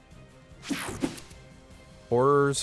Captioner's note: air whooshing